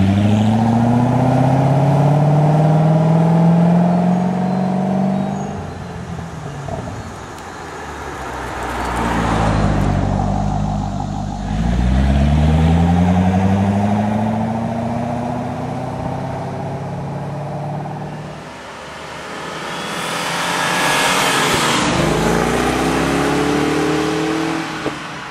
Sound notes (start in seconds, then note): 5.2 Vette high-speed pass